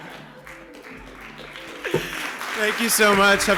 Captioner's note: applause